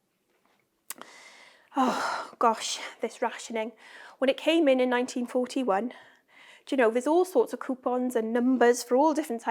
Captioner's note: sighs